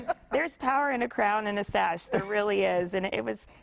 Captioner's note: laughter